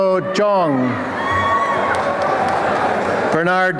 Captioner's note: applause and cheering